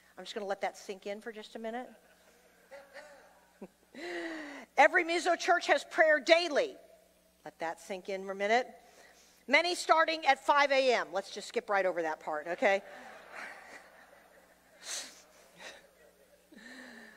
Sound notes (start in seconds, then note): 2.2 laughs